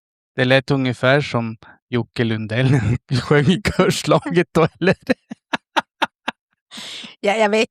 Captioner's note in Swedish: skratt